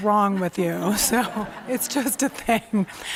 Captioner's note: laughter